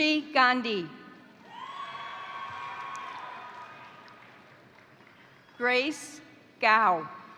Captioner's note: crowd cheering; crowd applauding